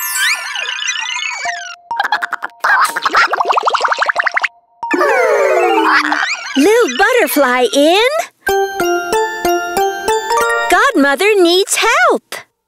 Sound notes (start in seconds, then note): 4.9 all sigh